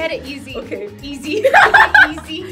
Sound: laughs

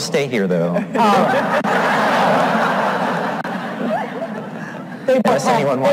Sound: all laugh

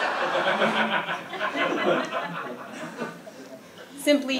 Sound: laugh

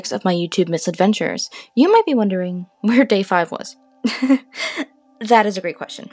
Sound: unironically laugh uncomfortably

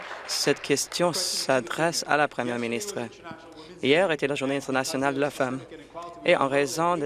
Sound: applause

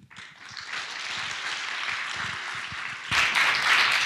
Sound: audience applause

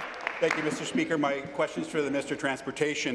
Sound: applause

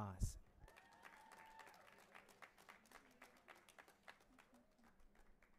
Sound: audience applauding and cheering

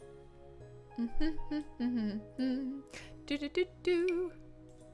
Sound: humming

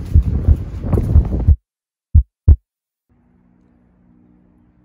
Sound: the heart beating; the beating stops

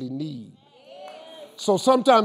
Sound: crowd

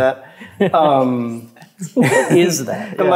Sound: chuckle

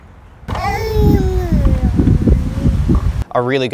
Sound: baby babbling

